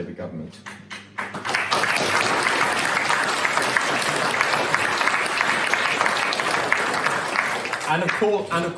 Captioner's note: applause